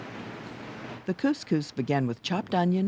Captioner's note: voiceover